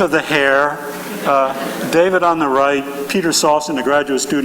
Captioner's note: chuckling